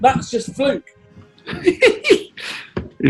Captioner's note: giggling